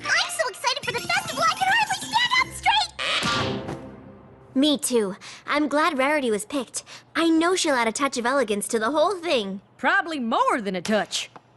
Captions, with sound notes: I'm so excited for the Festival I can hardly stand up straight. (thud) Me, too. I'm glad Rarity was picked. I know she'll add a touch of elegance to the whole thing. Probably more than a touch.